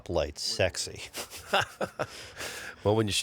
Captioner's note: laughs